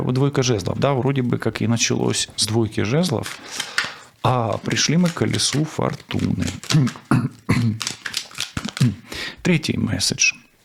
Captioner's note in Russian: откашливается